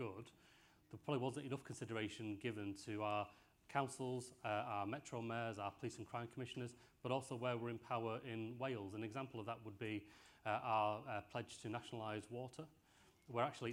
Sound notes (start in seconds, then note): none